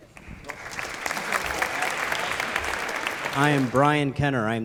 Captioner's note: applause